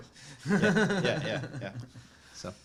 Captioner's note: laughing